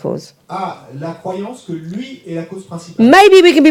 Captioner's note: audience member speaks in French